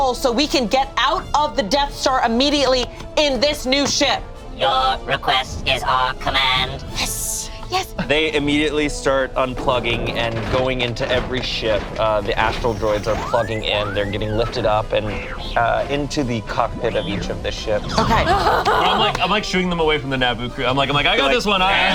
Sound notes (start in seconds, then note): 18.0 laughing